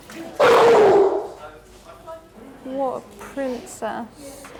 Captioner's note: dog barks